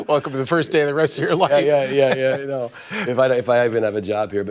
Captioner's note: laughter